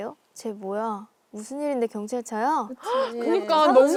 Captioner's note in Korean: 웅성웅성